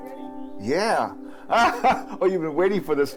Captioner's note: chuckles